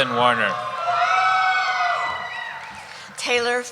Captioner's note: cheering